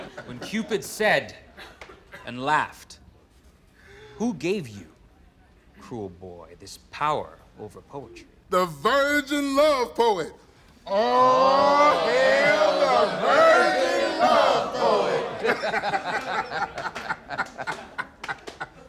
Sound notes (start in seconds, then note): 15.6 laughs